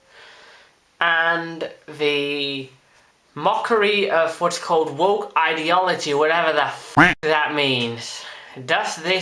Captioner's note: quack